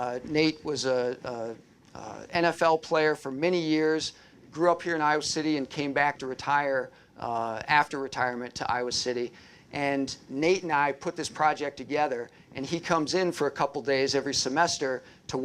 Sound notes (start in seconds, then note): none